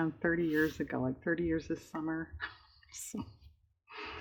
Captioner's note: laughs